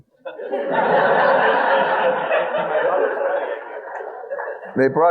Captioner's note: audience laughing